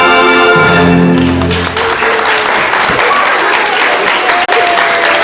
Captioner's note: audience applauds